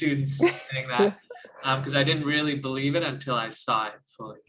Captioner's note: laugh